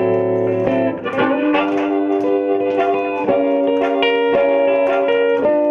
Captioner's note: audience claps rhythmically